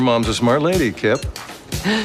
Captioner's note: laughs